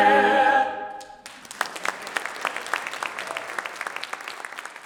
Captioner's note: audience applauds